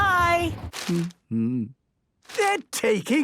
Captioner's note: humming